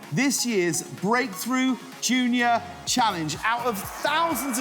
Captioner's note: students cheering